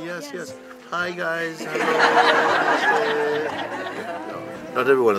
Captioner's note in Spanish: risas